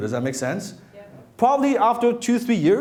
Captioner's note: crowd